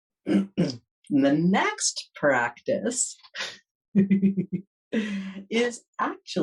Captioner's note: giggles